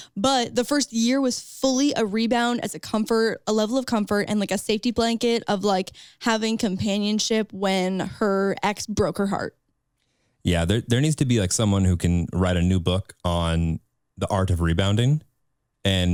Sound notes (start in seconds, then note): none